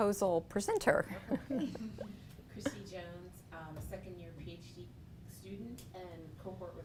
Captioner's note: laugh